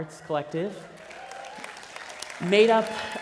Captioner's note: applause